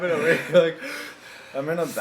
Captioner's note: heavy breathing noises